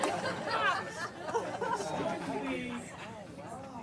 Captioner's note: laughter